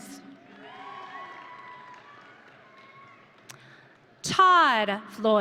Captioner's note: audience cheering